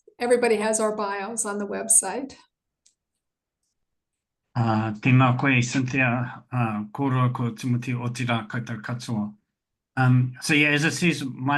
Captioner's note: foreign language 00:03:46; foreign language 00:03:48